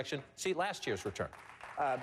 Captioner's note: applause